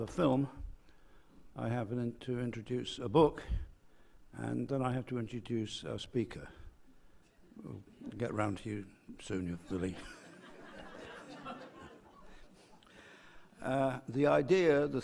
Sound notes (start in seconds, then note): 10.0 laugh